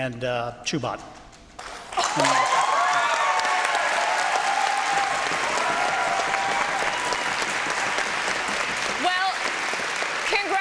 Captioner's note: applause and cheering